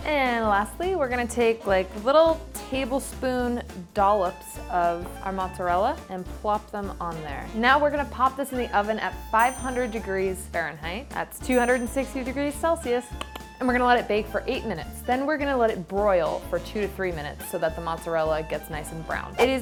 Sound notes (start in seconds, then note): 13.1 clicks tongue